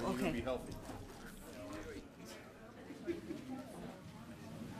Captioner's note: people chattering